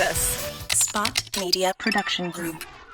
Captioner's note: robotic Voice